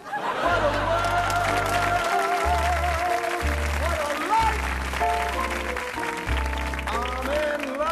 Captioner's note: applause